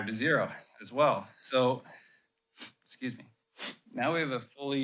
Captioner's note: sniffs